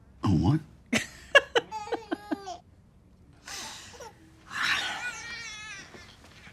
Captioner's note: Roxanne laughs; baby cries